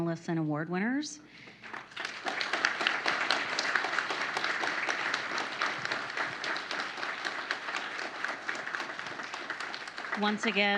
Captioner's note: applause